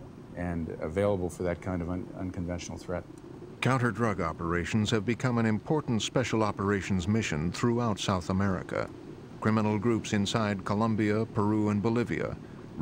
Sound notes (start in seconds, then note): 3.6 voiceover